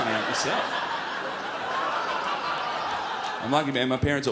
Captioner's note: crowd laughs